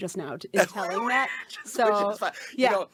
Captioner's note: laughing